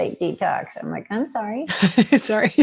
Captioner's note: laughs